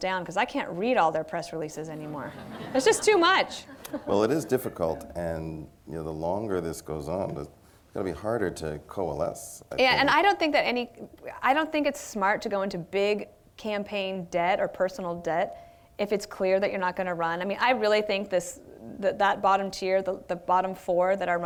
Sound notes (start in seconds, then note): 2.0 laughter